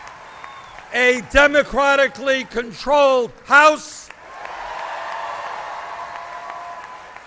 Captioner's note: applause